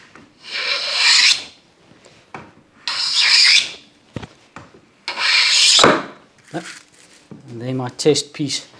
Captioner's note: hand Plane Noise